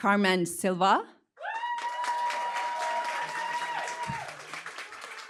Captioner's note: cheering, applause